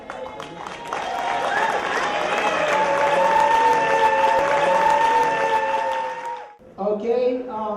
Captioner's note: applause